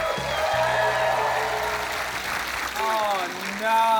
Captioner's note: cheering, applause; blows whistle